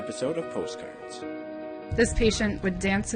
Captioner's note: voiceover